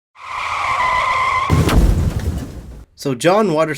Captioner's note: car screeches